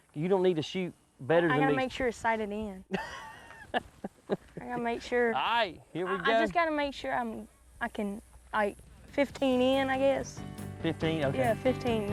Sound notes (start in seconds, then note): 2.9 man laughs